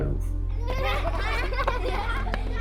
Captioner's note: laughter